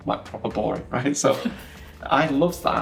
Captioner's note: laughing